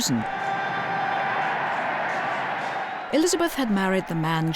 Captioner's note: crowd cheering